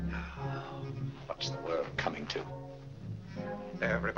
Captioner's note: sighs